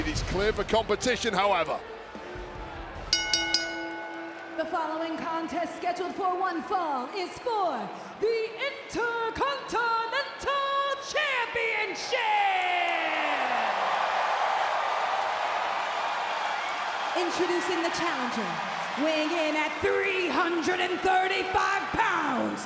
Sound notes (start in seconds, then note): 3.1 ring bell clanging; 12.5 audience cheering